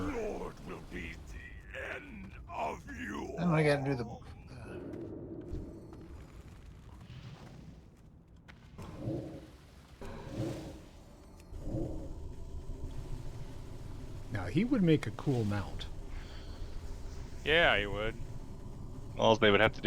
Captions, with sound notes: Our lord will be the end of you. Then I gotta do the wolf. (roaring) Now he would make a cool mount. Yeah, he would. All they would have to